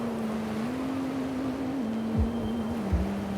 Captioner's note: humming continues